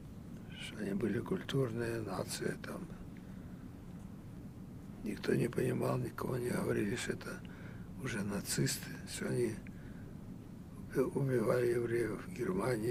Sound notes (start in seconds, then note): none